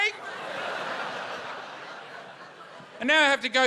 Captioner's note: laughter